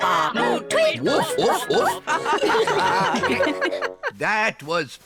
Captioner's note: all giggle